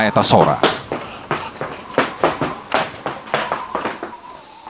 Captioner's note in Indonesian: suara langkah kaki